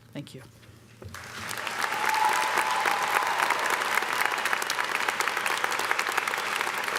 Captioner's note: audience applauding; audience cheering